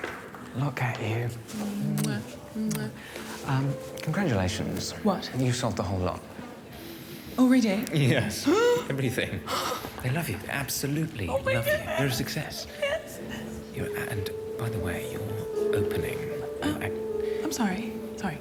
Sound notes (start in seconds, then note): 9.1 exhales shakily; 9.4 gasps